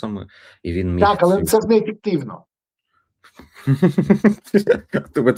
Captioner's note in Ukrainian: сміх